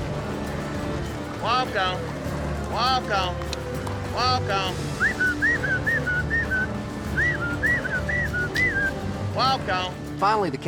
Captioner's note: prompting cattle, whistling